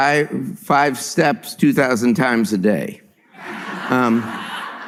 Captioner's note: laughter